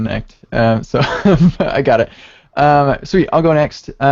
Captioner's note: laughs